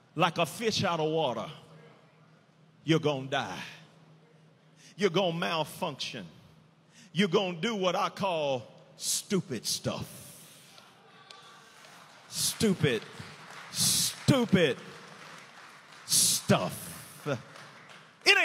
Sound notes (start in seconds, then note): 11.0 prisoners cheer; 15.3 prisoners applauding